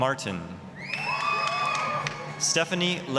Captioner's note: applause, cheering